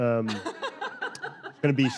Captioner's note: panel laughing